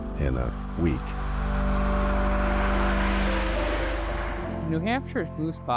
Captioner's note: cars whooshing